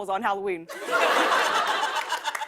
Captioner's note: laughter